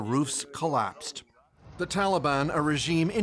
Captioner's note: speaking alternate language